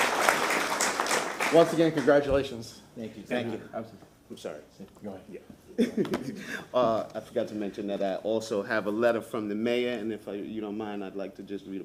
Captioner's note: applause